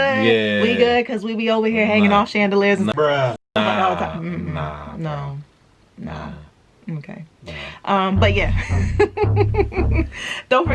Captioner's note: bruh! laughing